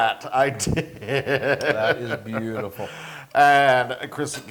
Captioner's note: laugh